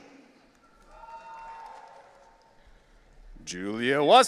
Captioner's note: audience cheering